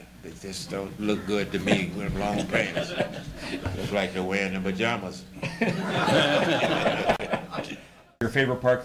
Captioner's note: laughter